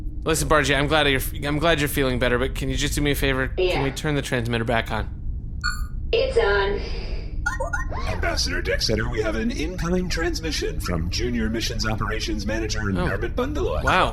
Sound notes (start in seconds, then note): 7.4 high-pitched chirp; 7.4 incoming transmission alert